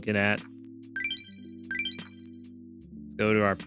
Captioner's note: beeping